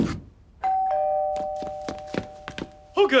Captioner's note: doorbell rings